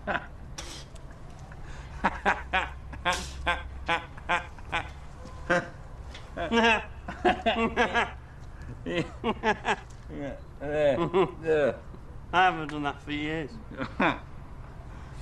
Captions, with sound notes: (Slurring) Look at that. There. Eurgh! I haven't done that for years.